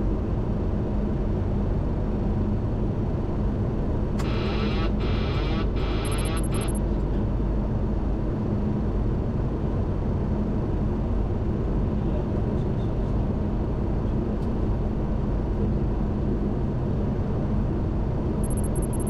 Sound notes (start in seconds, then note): 5.1 autopilot disconnect alarm blares